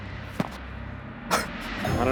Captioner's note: dough thumping